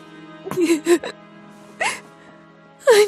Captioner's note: Neyrelle whimpering